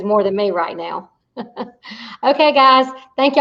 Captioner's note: chuckles